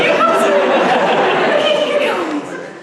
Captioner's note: audience laughs